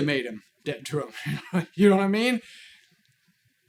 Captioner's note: guffaws